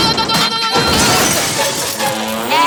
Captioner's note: screaming; crashing